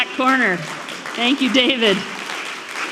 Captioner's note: audience clapping